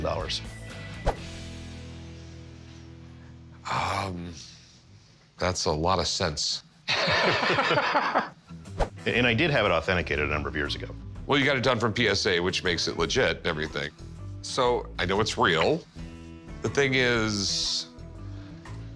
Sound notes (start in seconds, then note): 6.8 laughter